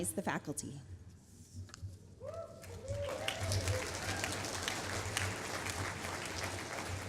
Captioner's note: applause